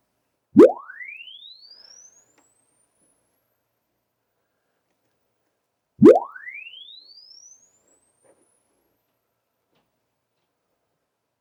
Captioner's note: silence